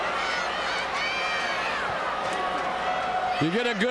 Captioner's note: crowd shouting